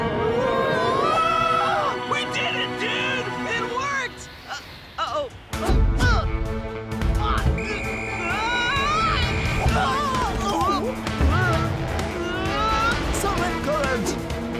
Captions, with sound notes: (screaming) - We did it dude! - It worked! - Uh, uh-oh. (grunting) (whistle blowing) (shouting) (grunting) - The rip current!